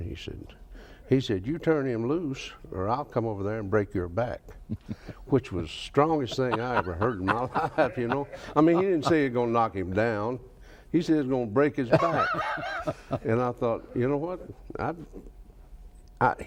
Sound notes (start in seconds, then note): 11.8 laughs